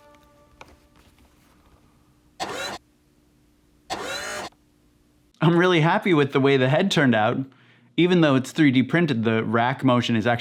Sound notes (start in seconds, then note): 0.1 silence; 2.4 whir